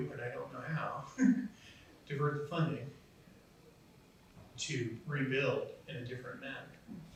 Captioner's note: laughs